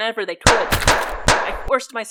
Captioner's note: cracking bones and gunfire